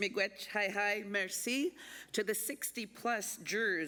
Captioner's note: speaking Indigenous and French